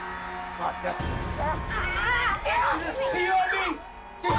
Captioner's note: urinating